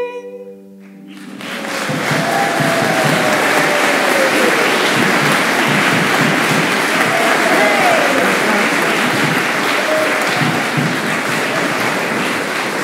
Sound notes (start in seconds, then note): 1.0 applause